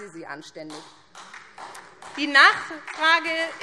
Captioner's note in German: Beifall SPD und DIE LINKE